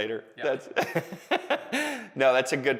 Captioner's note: laughing